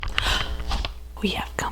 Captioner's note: gasp